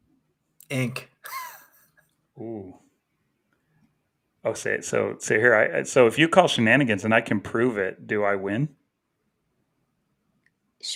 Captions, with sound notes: Ink. (chuckles) - Ooh. I would say, so, say here I, so if you call shenanigans and I can prove it, do I win?